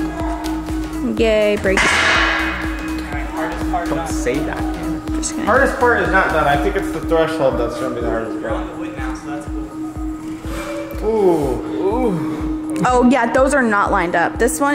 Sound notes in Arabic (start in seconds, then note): 1.7 ضجيج رنين; 11.1 شهقات ناعمة